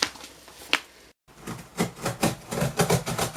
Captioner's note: knife cutting cardboard